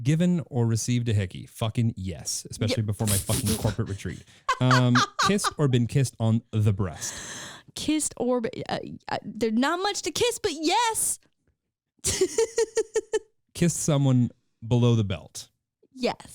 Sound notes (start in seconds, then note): 4.4 laughing; 12.1 laughing